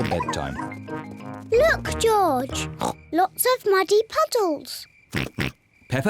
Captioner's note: snorts